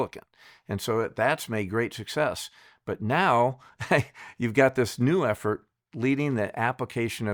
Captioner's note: chuckles